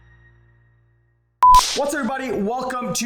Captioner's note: beeping